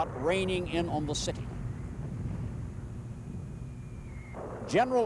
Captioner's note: mortar fire whistling, booming